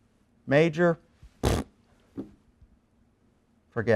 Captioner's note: blowing raspberries